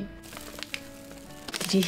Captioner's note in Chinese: 谷物碎掉落到底的声音